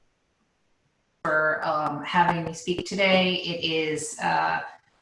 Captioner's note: murmurs